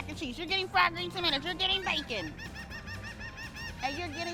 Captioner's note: bird squawks